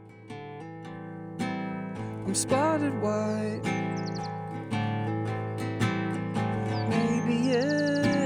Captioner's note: birds chirping